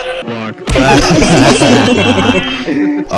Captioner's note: gotta sweep, teachers and students laughing